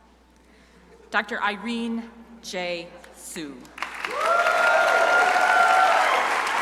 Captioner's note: crowd applauding